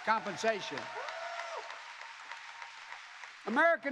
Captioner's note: applause